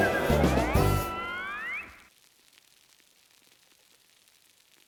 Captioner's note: lighthearted instrumental music; beer fizzing